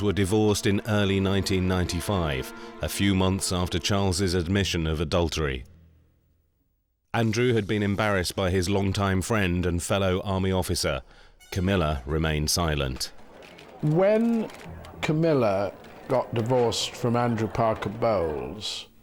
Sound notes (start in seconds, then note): 13.2 camera shutters clicking